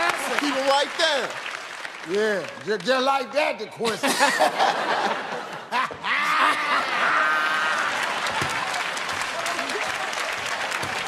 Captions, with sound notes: Good answer. Keep 'em right there. Yeah, just like that, Dequincy. [ Laughter ] Ha-ha! Ah-ha-ha!